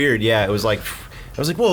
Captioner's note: exhaling